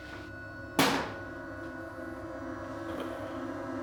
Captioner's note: plier thuds